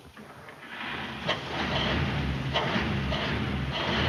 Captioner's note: engine revving